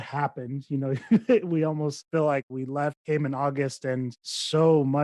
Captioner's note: chuckles